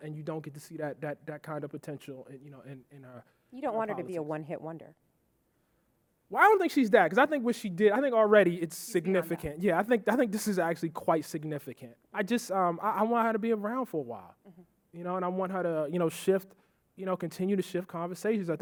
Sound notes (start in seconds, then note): none